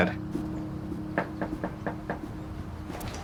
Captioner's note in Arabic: طرق على الباب